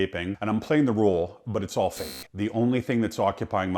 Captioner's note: beep